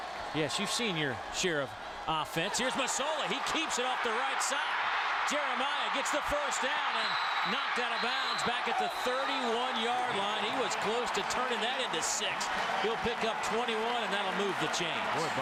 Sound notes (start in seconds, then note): 7.9 crowd noise